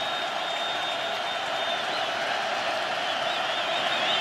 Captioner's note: crowd cheering